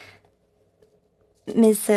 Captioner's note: speaking French